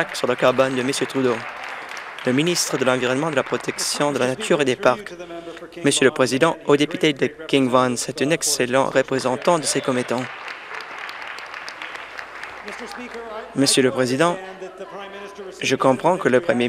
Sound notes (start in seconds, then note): 4.5 some Applause; 12.8 cheering and Applause